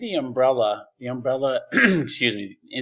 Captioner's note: clears throat